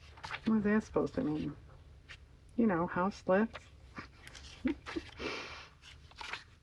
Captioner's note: laughs